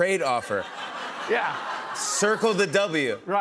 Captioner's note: laughter